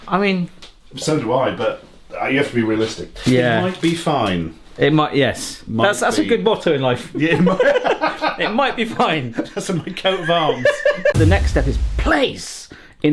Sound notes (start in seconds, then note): 7.4 both laughing; 10.1 both laughing; 11.1 drumbeat music